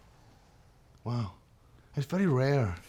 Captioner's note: scottish accent